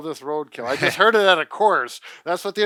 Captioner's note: chuckles